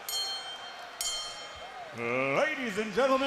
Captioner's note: bell ringing